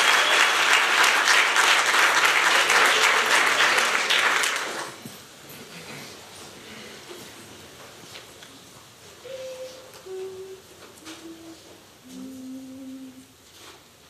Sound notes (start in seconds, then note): 9.2 humming